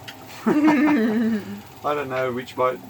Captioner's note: laughs